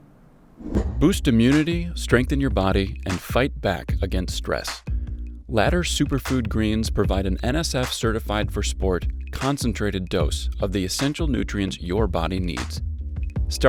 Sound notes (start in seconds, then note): 0.7 voiceover